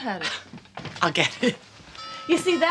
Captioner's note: doorbell rings